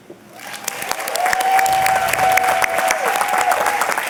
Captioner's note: audience clapping and cheering